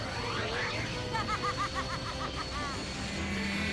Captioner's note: evil laugh